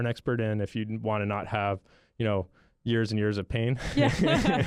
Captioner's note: chuckle